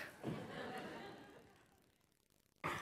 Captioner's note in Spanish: Risas